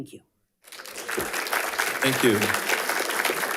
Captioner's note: attendees applauding